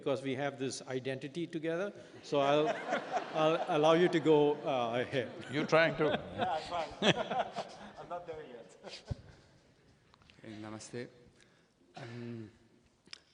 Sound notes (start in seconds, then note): 7.0 laughter; 12.1 laughs